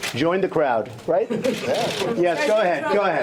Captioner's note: laughter